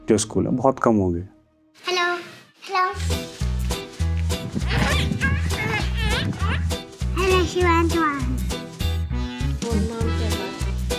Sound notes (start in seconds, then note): 3.7 kids playing